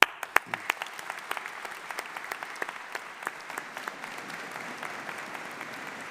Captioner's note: graduates applauding and cheering